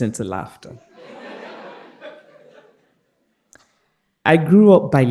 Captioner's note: participants laughing